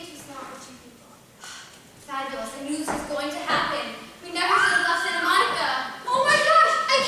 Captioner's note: screaming